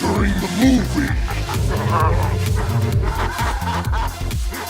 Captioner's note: man snarling; cop 1 screams